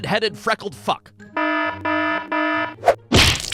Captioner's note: alarm goes off!; thwack!